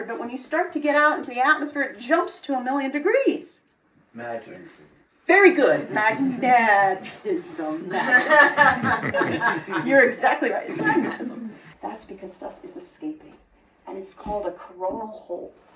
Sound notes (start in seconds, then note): 7.9 laughter